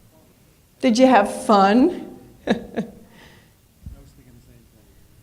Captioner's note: laughs